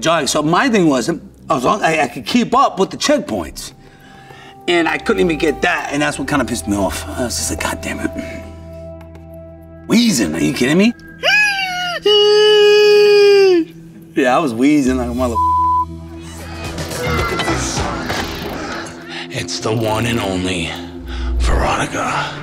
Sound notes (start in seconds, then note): 12.3 wheezes dramatically; 16.3 group chattering